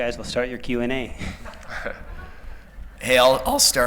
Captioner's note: laughter